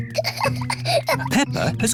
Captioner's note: peppa giggling